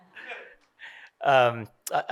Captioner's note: laughing